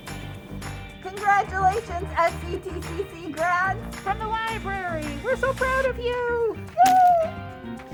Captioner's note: cheers